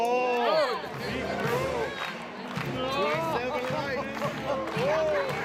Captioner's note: everyone laughs genuinely